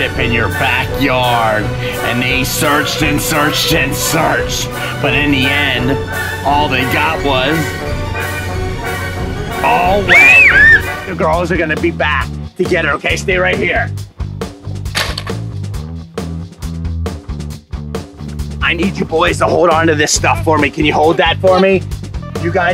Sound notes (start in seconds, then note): 9.8 screaming